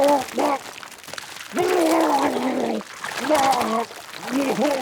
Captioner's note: retches; Walter retching